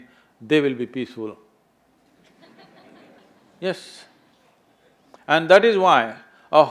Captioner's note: few laugh